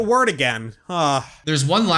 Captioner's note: sigh